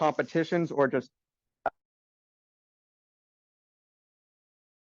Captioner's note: audio cuts out